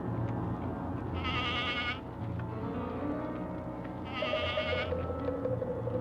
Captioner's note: goat bleating